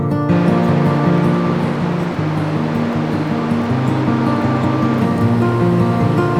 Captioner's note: acoustic guitar music; water rushing